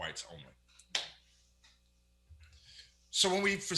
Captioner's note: smacks lap